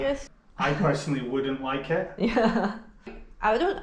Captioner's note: speaks carefully